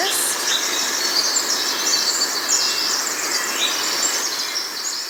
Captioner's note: forest sounds continue